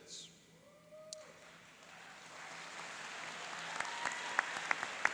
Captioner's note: cheering and applauding